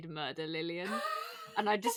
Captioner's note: laughing; wheezes